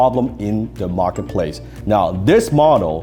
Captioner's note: computer chimes